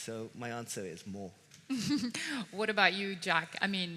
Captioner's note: chuckles